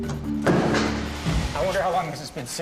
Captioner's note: object thumps